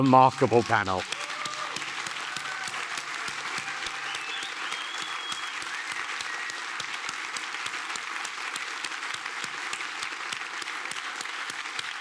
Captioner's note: applause